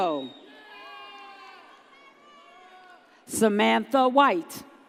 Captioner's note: audience cheers